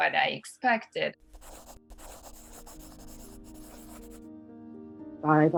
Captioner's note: pencil Scribbling